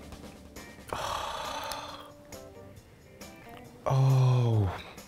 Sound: gasps

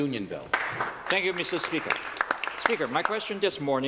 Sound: applause

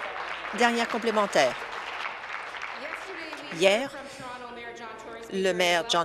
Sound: applause

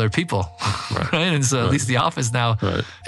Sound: laugh

